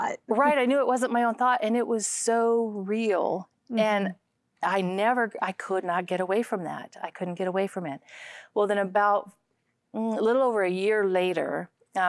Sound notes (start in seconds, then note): none